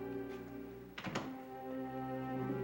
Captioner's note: pensive music; door shuts